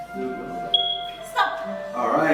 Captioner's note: beep!